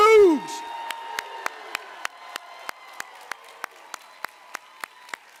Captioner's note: cheering, applause